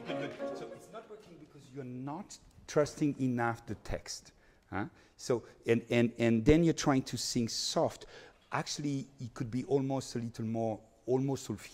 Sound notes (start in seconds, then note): none